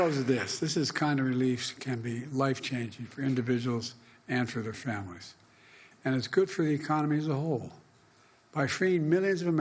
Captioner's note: applause